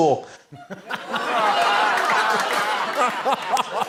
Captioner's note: laughter